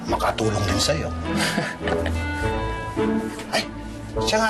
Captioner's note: chuckles